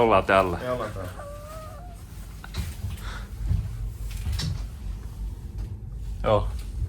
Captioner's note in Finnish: taustahälinää